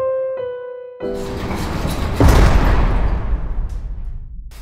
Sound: prison door closing

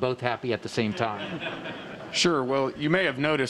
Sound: laughter

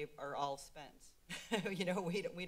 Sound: laughs

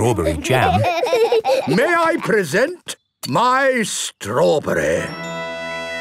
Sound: laughing

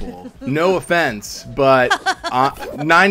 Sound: laughing

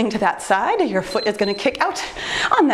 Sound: timer beeps

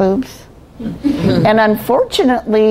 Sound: laughing

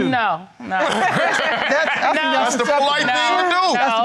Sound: audience laughing

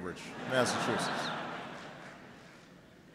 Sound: laughter

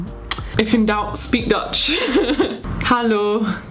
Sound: chuckling

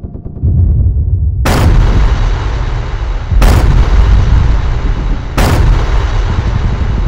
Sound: clock Ticking and Gun Fire

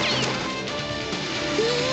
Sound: shouting

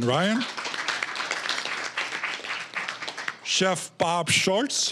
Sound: applause

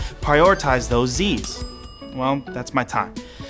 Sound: ding

